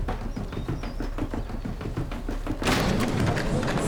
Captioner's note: footsteps racing